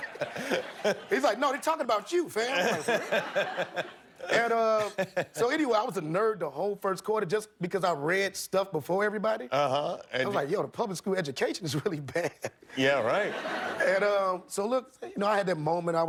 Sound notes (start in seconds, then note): 2.4 laughter